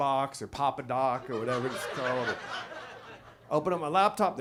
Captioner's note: audience laughs